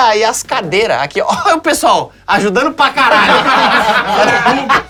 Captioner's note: risos